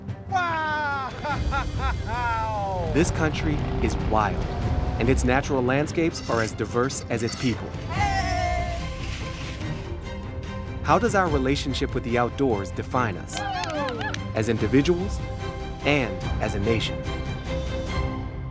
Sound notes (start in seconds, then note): 8.3 uplifting music continues; 13.3 crowd cheering